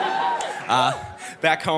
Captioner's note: sweet laughter and supportive cheering; sweet laughter and supportive cheering and one "whoop" at the end